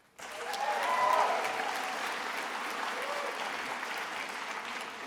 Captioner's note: attendees applauding